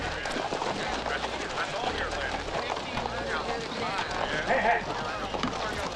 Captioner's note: jaunty saloon music; hooves clopping; men chattering